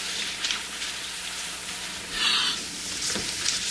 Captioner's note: gasps